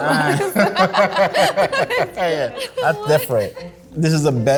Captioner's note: group laughing